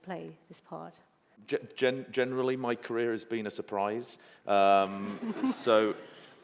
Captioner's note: laughter